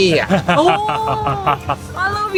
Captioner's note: impressed